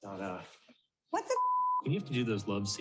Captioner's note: beep